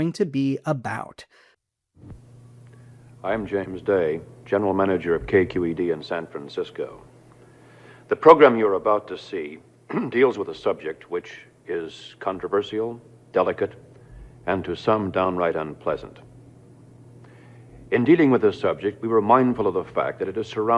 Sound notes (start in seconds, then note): 9.9 clears his throat